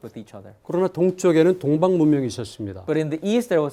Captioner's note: speaking in Korean